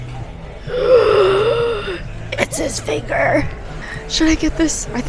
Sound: gasp

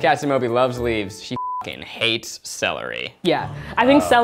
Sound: beep

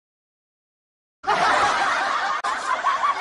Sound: exagerated hysterical laughter

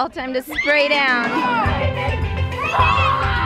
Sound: upbeat music; children yelling

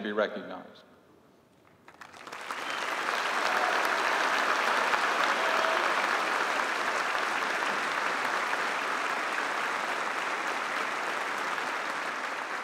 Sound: applause

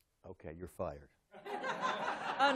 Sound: laughter

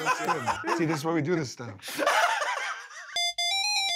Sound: laughter

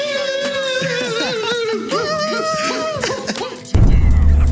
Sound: shouting

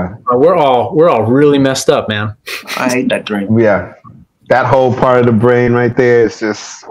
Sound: makes whooshing noise

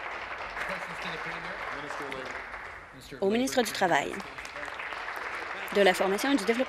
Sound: applause

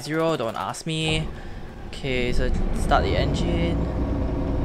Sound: starts engine

